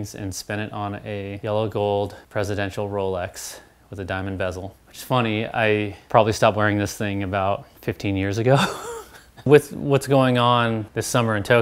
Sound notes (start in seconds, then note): 8.5 laughs